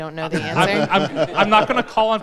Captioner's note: laughing